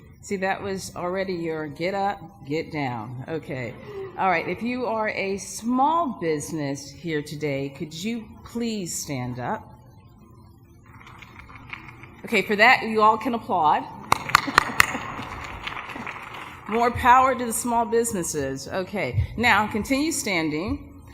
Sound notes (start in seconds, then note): 10.9 light applause; 14.0 applause